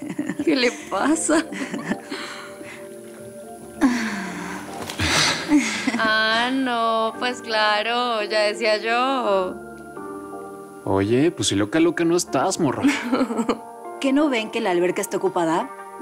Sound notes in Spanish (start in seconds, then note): 3.8 Suspiro